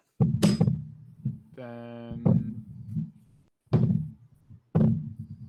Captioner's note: microphone interference